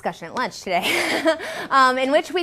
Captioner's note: laughs